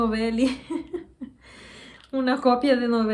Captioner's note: giggles